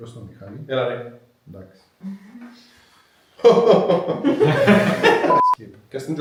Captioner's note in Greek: γέλια